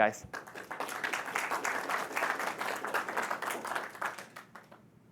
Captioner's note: audience applauding